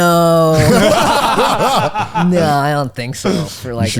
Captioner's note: all laughing